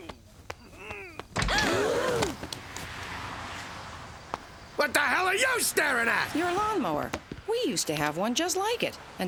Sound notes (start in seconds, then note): 0.6 people gasping